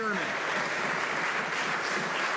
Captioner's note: some Applause